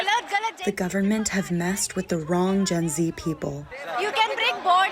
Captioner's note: through translator